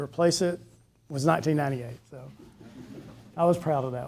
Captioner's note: people chuckling